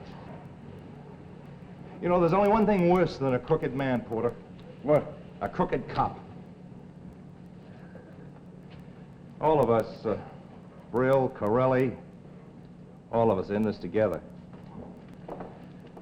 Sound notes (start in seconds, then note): none